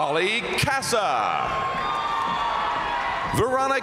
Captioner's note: crowd cheering; crowd applauding